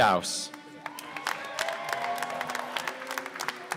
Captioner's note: applause